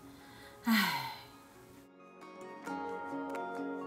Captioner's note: sigh~